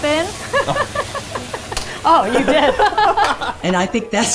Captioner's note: laughs; both laughing